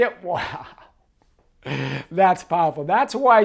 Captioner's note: laughing